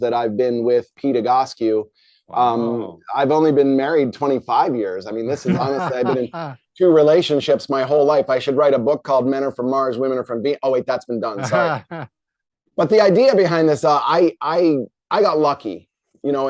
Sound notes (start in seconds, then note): 11.4 chuckles